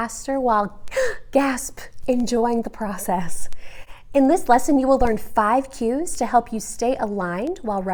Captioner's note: gasp!